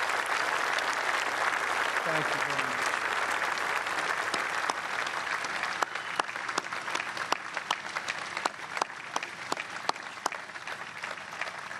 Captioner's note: applause